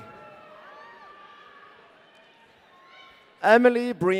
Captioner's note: audience cheering